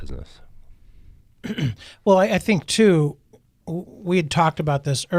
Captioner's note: clears throat